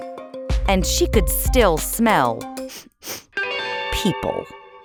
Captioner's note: sniffing